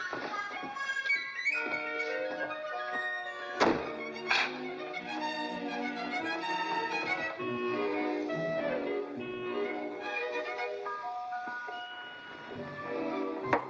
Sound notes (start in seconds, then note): 0.0 playful music; 3.4 door closes; 4.5 playful music; 13.4 knocks on door